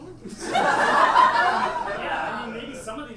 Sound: audience laughs

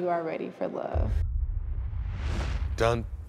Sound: swoosh

